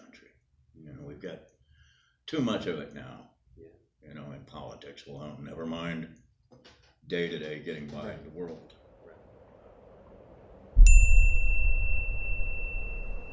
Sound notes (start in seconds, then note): 8.6 wind blows; 10.8 bell chiming